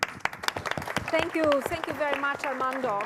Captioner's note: applause